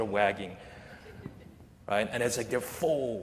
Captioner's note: laughter